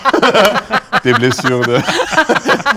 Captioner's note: laughs